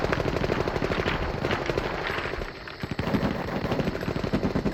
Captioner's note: guns firing